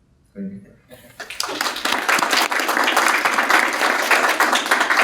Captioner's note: audience applauding